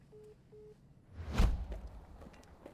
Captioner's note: whoosh